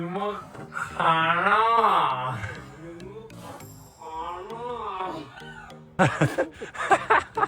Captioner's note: laughing